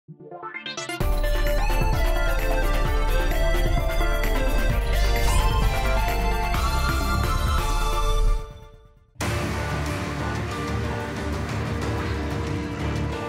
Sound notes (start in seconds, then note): 0.0 intro music; 5.0 sword slash